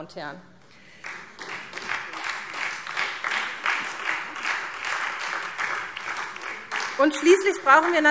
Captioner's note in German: Beifall SPD